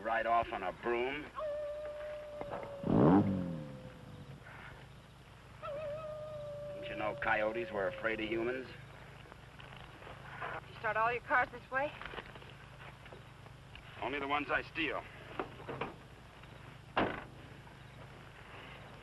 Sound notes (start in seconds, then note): 1.2 coyote howling; 3.6 engine rumbling